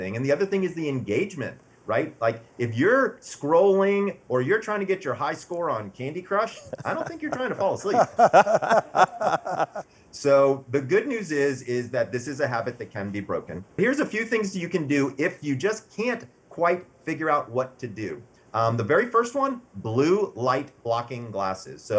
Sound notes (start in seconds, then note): 8.2 both laughing